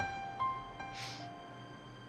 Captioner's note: sniffles